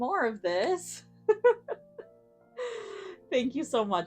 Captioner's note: giggles